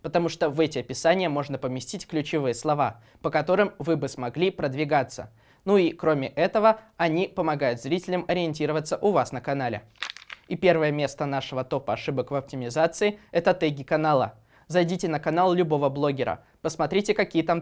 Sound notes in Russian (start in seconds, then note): 9.9 шорох листов